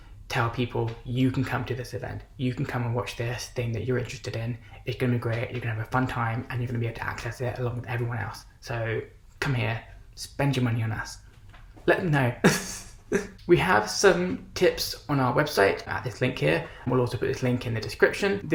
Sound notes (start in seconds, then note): 12.4 laughs